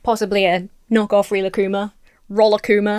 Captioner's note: none